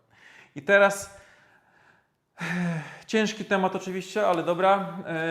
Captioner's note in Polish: westchnienie